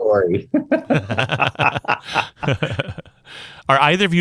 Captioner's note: group chuckles